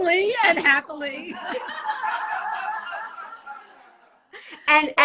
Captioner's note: all laugh